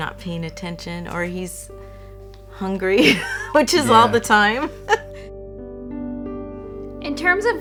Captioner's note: laughs